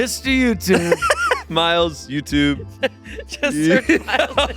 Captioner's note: laughs